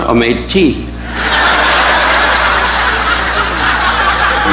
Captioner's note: audience laughing